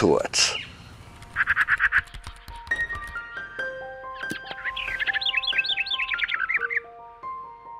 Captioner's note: birds chirping; bright music